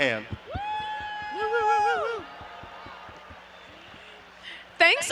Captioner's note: audience applauding and cheering